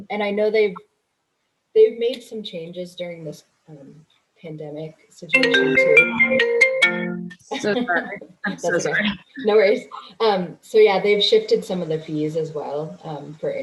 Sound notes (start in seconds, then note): 5.4 phone ringing